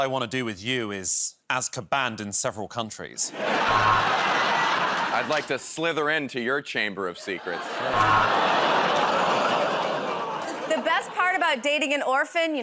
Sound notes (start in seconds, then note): 3.3 laughter; 7.5 audience groans